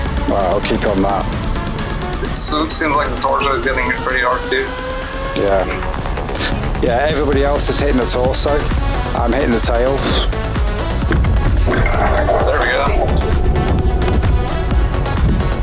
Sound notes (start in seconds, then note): 11.1 explosions